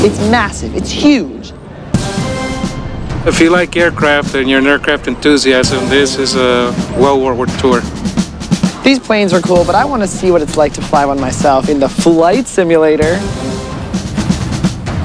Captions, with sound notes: It's massive. It's huge. - [Voiceover] If you like aircraft and you're an aircraft enthusiast, then this is a well worth tour. - These planes are cool but I want to see what it's like to fly one myself in the flight simulator.